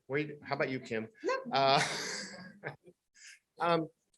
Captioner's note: laughter